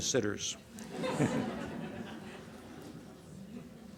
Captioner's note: laughter